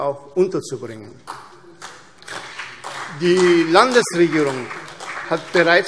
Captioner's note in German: Beifall CDU und vereinzelt BÜNDNIS 90/DIE GRÜNEN